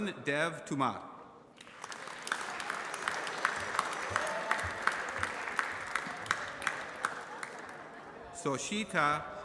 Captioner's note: applause